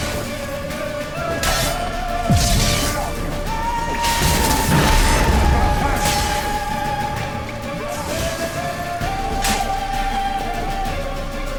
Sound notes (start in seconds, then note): 4.7 Quen shield explodes